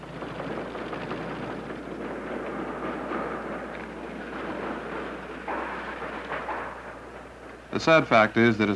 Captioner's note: sound of machines in a textile plant